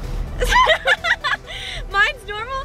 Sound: laughing

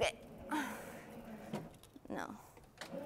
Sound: groans; board grinds

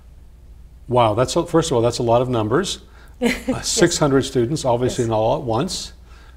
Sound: laugh

